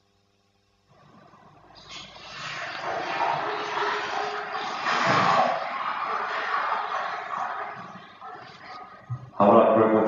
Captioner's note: water running in the background